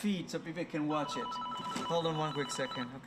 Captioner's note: phone rings